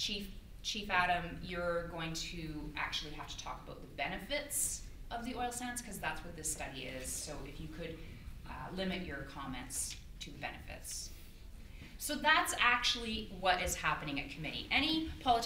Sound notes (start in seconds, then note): none